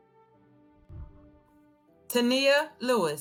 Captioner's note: whooshing